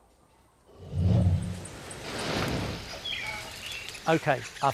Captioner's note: bird chirping